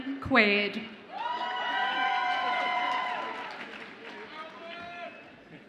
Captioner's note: audience applauds and cheers